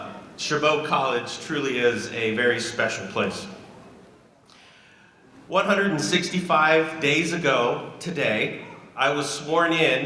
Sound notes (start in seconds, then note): none